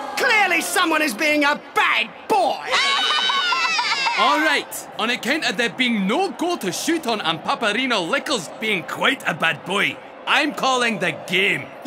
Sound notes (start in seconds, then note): 2.7 crying